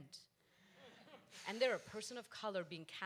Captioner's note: audience laughs